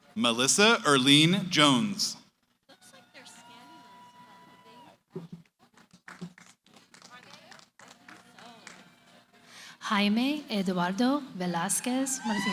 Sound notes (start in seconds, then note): 2.4 cheering, applause